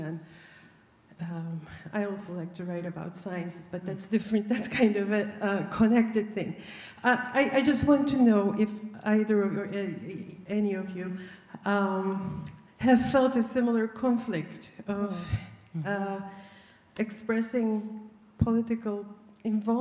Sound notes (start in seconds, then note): none